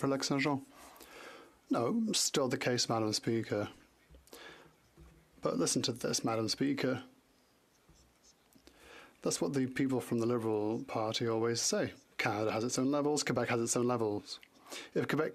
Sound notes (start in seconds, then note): 5.4 speaking French